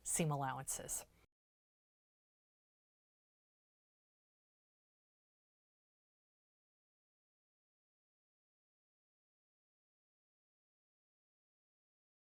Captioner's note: no Sound Present